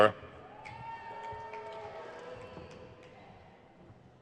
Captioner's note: crowd cheers